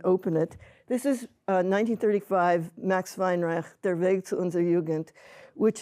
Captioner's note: hebrew